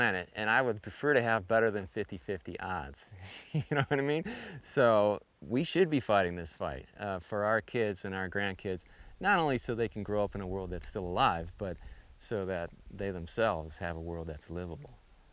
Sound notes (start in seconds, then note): 3.1 chuckles